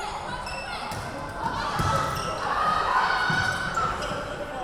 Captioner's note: yelling